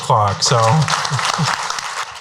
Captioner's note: applause